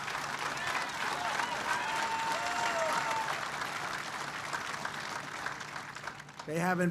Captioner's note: applause